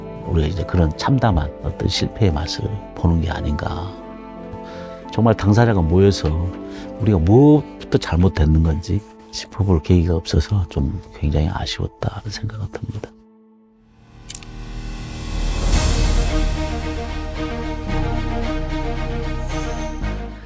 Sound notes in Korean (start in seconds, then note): 17.8 희망찬 음악; 17.8 다이얼 소리